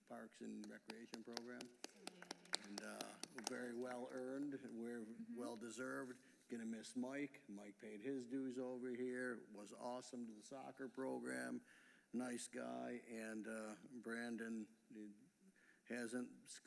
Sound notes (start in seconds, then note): 5.3 applause